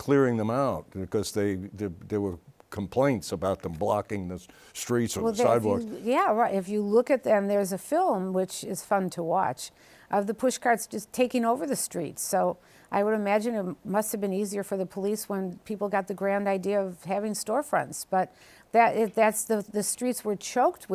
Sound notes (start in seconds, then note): none